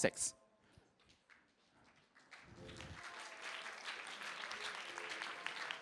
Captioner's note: applause